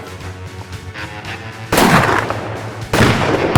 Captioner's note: gunshots